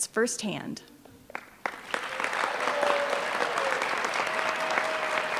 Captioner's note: applause